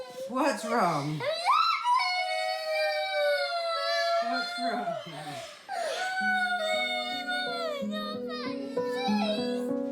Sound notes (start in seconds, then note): 0.4 cries; 3.0 both boys cry